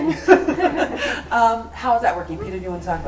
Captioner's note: laughs